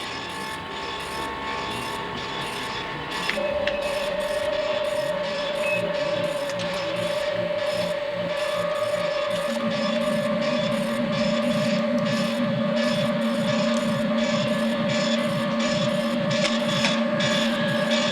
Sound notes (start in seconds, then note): 0.2 click; 5.5 machines beeping, buzzing, and humming